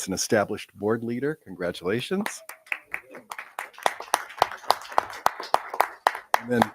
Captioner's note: people applauding